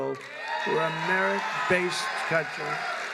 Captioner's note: applause